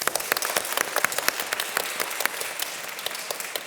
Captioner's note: audience applause